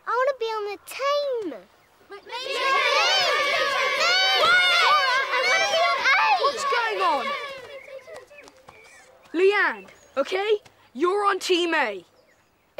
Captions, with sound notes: - I want to be on the team. (crowd yelling) - Quiet! - Zora, I want to be on A! - What's going on? - Leanne, okay, you're on team A.